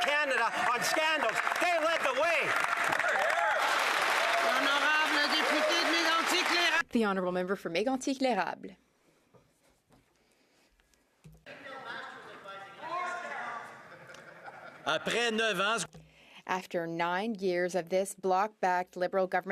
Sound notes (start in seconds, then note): 6.2 some Applause